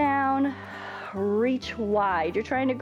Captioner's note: exhales; inhales